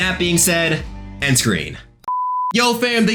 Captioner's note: beep